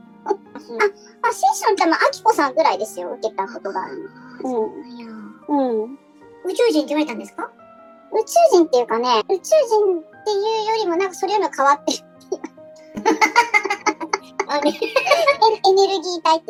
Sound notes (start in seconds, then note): 12.9 laughs